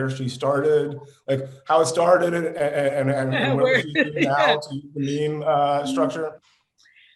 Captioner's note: laughing